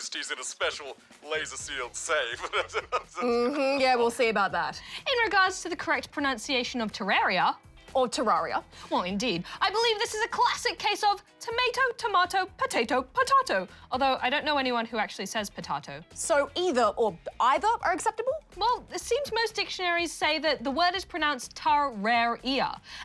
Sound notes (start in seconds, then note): 2.2 chuckles